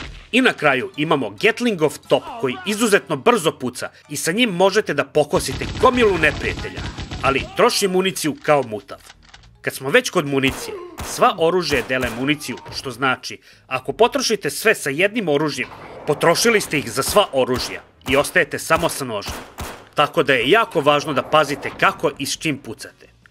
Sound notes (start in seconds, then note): none